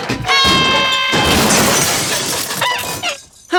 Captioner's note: crashing; screaming